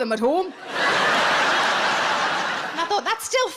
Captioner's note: audience laughs